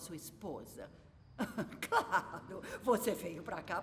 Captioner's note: laughing